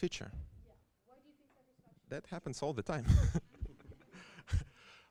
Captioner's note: laughter